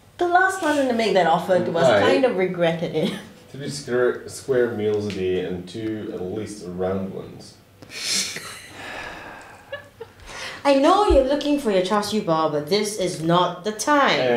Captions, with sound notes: The last person to make that offer kind of regretted it. 3 square meals a day And 2 at least round ones. *sighs* I know you’re looking for your char siew pao but this is not the time